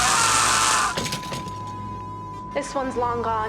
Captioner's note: screaming; flatline beep